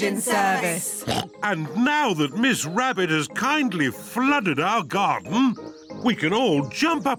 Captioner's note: oinks